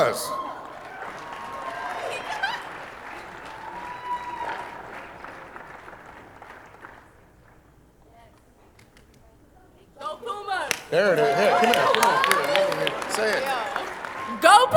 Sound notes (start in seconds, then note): 0.0 audience applauding; 4.3 audience cheering